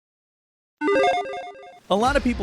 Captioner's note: computer chirps